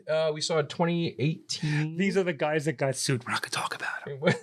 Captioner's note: whispering